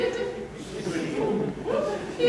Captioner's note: laughter